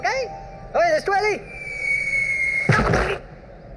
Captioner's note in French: Sifflement de chute